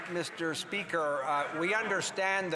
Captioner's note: some Applause